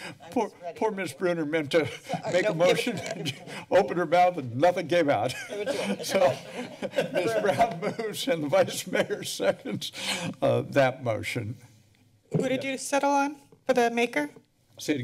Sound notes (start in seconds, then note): 2.7 laughter; 5.3 laughs; 10.1 laughs